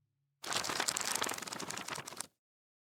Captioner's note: page Flips